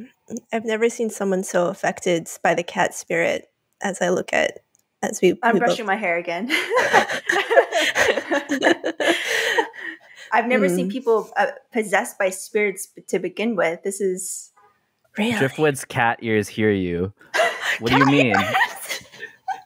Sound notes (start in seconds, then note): 6.5 laugh; 17.3 laugh